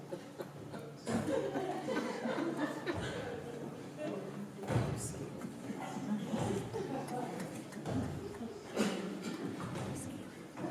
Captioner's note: laughter, noises of climbing exertion